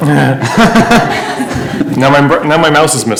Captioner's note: laughter